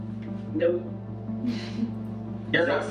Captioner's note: laughs